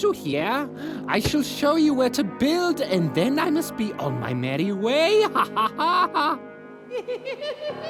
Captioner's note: laughs; laugh echoes